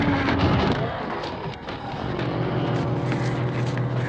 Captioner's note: ghouls growling